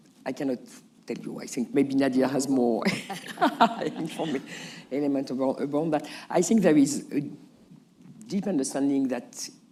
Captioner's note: laughs